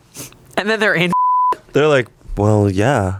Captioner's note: beep